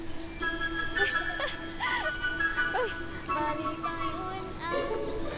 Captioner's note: joyful chatter